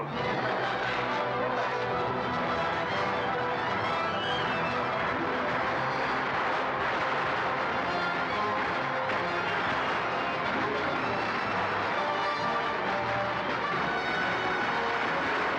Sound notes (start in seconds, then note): 0.2 dramatic music; 4.3 gunfire